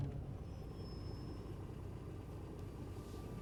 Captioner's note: brakes squeal